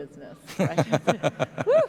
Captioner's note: laughter